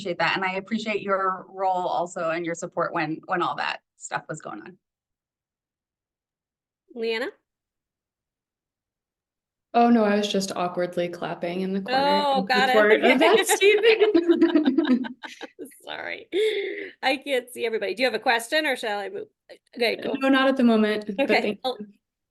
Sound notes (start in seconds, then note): 12.8 laughter